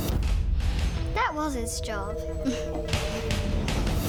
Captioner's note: chuckles